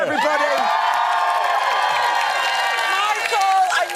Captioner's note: audience cheering